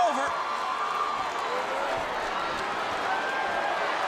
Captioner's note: crowd cheering